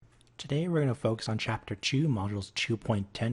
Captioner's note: voiceover